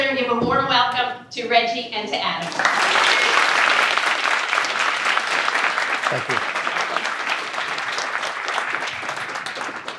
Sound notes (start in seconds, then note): 2.4 applause